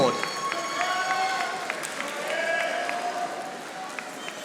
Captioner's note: audience applauding